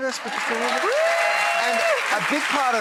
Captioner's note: applause